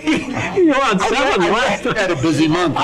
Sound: laughs

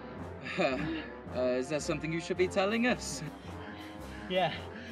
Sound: chuckling

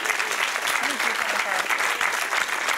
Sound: applause

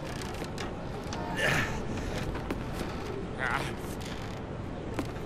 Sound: creaking; grunting

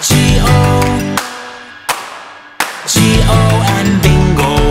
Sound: claps three times; claps three times

